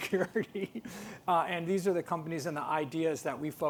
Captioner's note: laughs